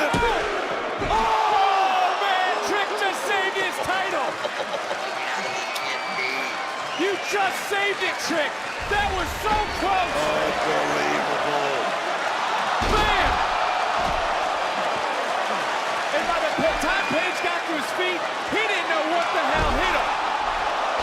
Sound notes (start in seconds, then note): 4.0 laughs